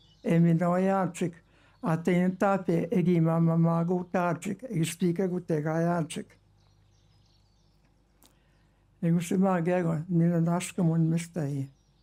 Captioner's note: speaking indigenous language